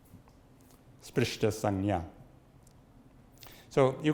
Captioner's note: speaks Sanskrit